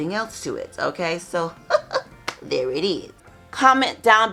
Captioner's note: giggling